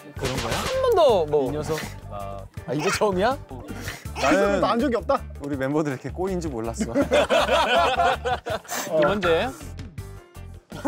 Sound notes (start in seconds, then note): 6.9 laughing